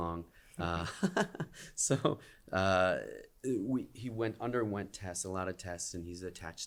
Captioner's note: laughter